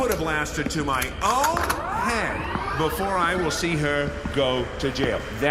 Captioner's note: click, followed by sound of blaster charging up